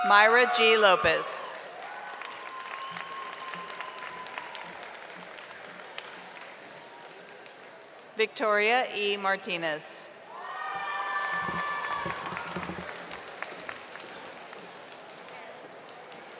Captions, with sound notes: Myra G. Lopez. (audience applauding) Victoria E. Martinez. (audience applauding)